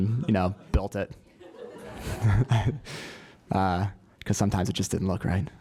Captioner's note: laugh